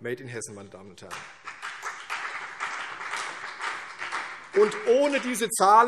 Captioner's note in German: Beifall CDU und vereinzelt BÜNDNIS 90/DIE GRÜNEN